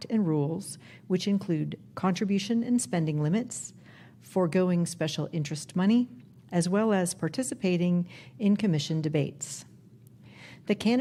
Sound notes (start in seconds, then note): none